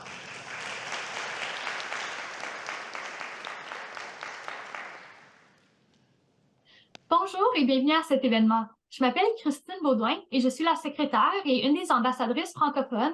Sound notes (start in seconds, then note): 0.0 audience applauding; 7.3 speaking French